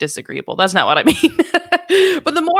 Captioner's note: laughing